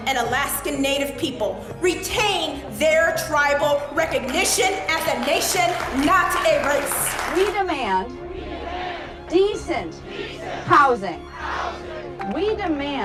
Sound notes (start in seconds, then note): 6.9 crowd clapping